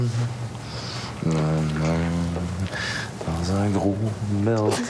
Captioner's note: Il chantonne